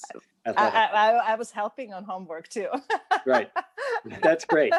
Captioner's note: laughs